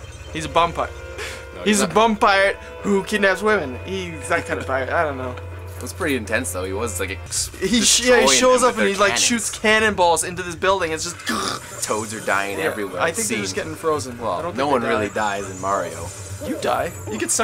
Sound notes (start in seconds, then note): 11.2 cughh!